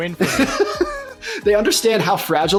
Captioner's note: chuckles